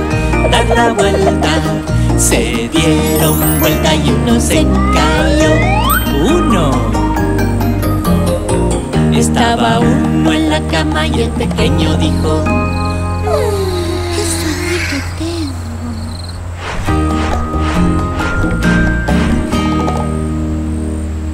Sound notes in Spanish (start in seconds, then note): 11.6 Grillos